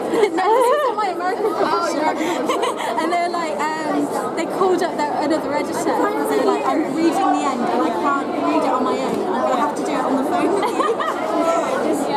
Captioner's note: laughs